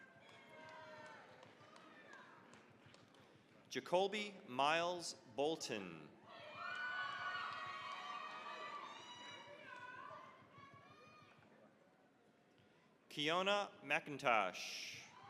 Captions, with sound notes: (cheering, applause) Jacoby Miles Bolton. (cheering, applause) Keyona McIntosh.